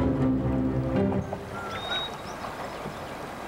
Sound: whistling

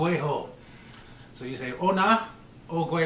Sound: speaking Mohawk

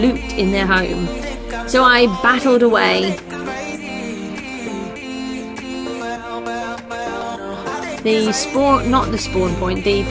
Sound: hesitates

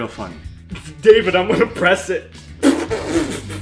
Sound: laughs/sputters; laughs

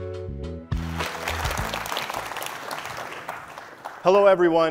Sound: audience applauds

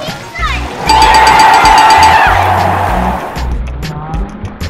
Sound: cheering; ding, ding, ding, ding!

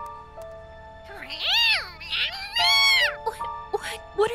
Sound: meowing

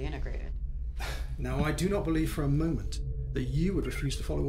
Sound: sighs

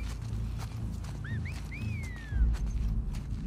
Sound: response Whistles!

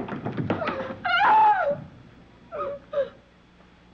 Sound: Anne crying

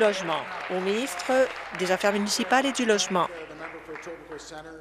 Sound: applause

